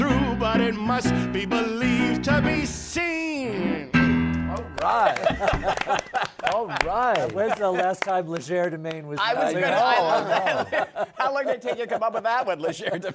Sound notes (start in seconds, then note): 5.0 laughter; 9.3 laughter